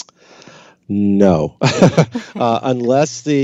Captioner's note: laughs